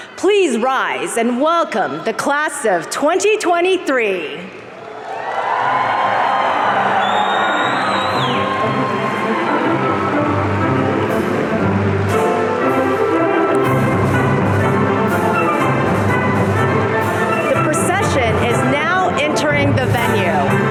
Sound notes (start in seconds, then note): 4.7 audience cheering